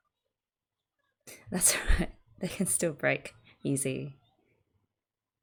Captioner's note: laughs